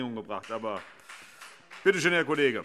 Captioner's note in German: Beifall Freie Demokraten